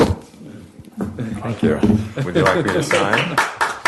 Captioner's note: applause